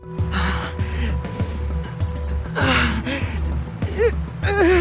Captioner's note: pained breathing; pained groans